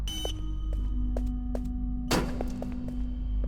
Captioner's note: door slams